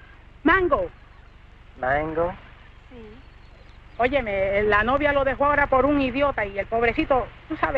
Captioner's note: Rosina speaking in Spanish